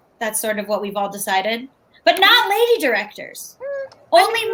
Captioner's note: none